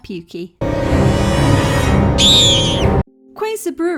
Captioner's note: terrifying music; loud scream